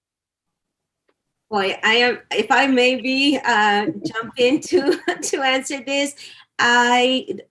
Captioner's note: laughter